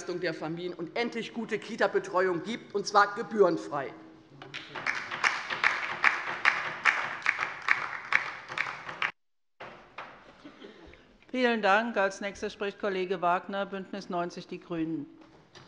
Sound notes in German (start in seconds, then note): 4.5 Beifall bei der LINKEN